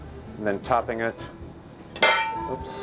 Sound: clanging

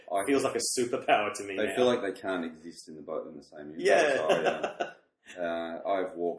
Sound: laughs; both laugh

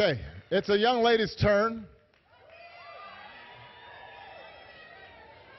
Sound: applause

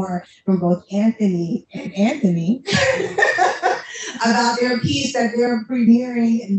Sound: laughs

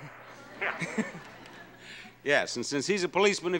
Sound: laughing

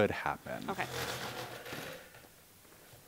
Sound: chair moving across floor

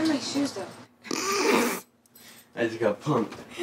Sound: laughs

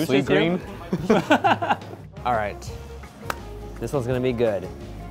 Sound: laughs

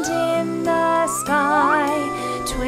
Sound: george gasps

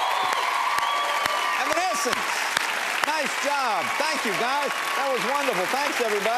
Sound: cheers and applause

